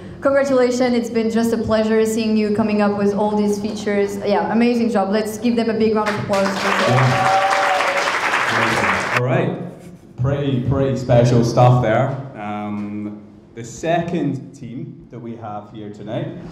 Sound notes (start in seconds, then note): 6.0 crowd applauding; 6.1 crowd cheering